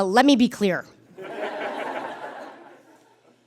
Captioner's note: audience laughs